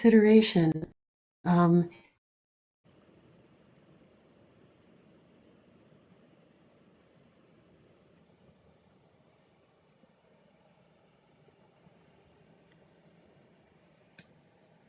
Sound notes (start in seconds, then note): 2.8 silence